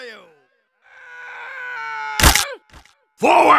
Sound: soldier's screaming fades in

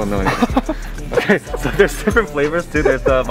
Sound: laughing

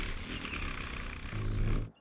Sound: wings flutter; bird song

